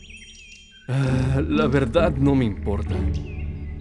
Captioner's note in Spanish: suspira